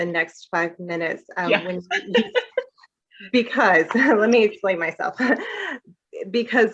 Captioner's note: laughter